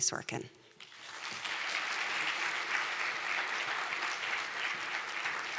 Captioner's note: applause